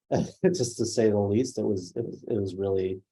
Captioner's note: laughs